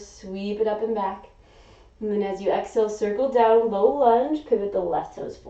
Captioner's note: inhaling